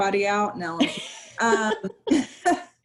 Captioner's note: laughter